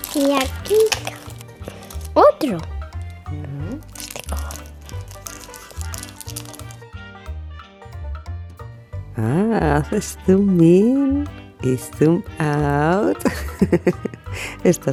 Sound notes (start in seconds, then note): 4.1 whispers; 13.1 laugh